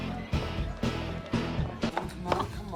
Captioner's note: people chattering